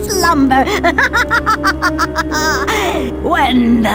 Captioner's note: cackling maniacally